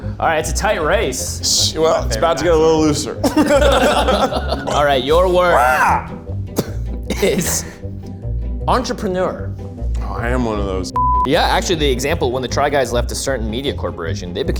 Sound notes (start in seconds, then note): 2.0 group laughs; 6.6 laughs; 10.9 beeps